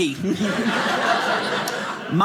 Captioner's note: audience laughing